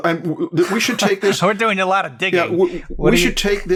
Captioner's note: laughs